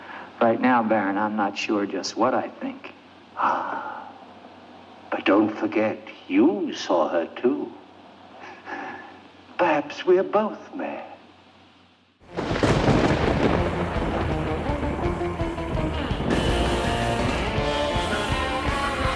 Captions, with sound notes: Right now, Baron, I'm not sure just what I think. Ah, but don't forget. You saw her too. Perhaps we are both mad. (thunder clapping) (spooky music)